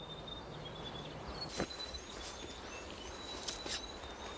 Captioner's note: birds chirping